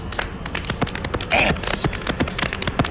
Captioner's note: hamboning continues